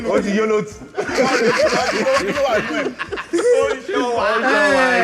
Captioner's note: everyone laughs